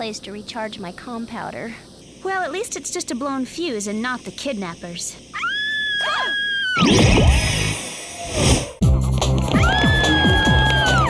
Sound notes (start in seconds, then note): 8.1 shriek